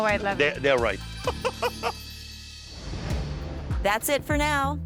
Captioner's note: laughing